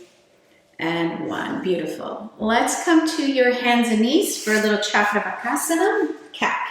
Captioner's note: foreign language 00:02:20